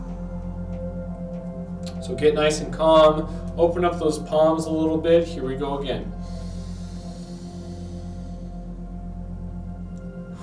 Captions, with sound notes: So get nice and calm. Open up those palms a little bit, here we go again. (inhales)